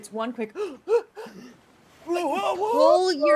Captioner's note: mimics gasping